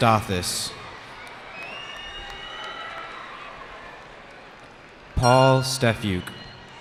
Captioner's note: cheering